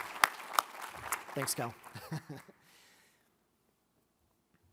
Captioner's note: laughs